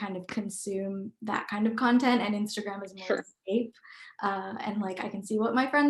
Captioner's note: murmur